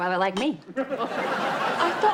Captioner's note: audience laughs